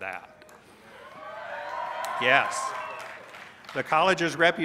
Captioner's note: cheers